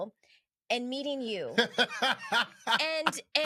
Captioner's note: laughing